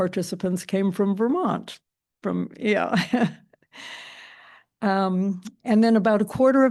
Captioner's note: chuckles